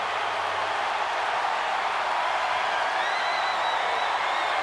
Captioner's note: audience cheering